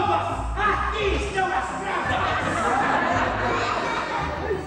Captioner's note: audience laughter